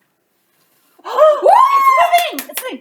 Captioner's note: blows; both exclaim